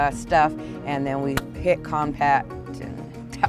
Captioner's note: smacks hands